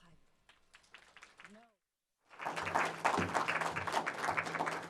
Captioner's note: audience applauding